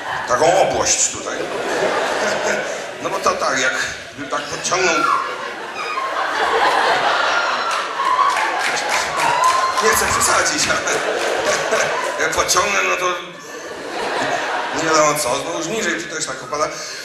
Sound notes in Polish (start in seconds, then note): 1.3 śmiech; 6.4 śmiech; 7.6 oklaski